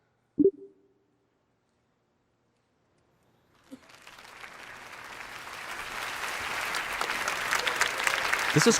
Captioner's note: applause